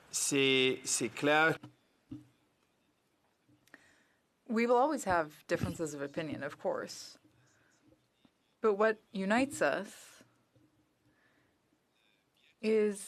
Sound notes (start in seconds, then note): 6.7 speaking French